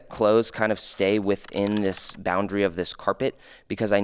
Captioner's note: computer keys clicking